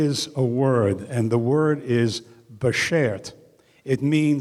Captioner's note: speaking in foreign language